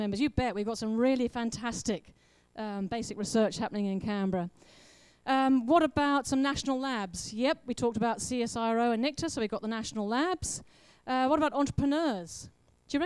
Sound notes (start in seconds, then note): none